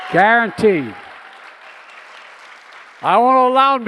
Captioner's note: applause